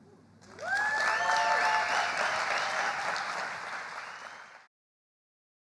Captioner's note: audience applauds; audience cheers